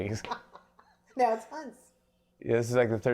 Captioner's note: laughs